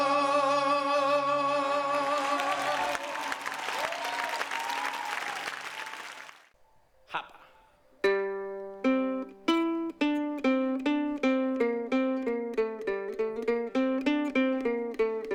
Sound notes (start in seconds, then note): 2.0 aplausos